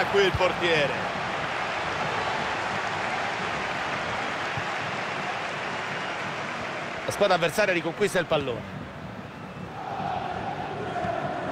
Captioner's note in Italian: Applauso